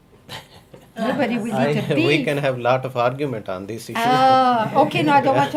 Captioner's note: laughs